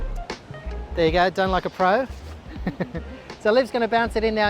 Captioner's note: chuckles